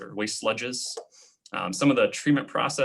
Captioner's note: clicking